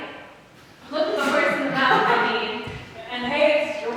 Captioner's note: audience laughing